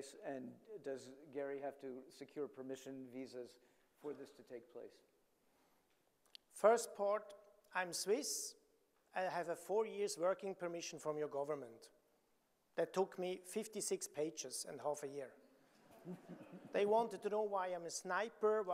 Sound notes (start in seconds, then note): 15.9 audience laughing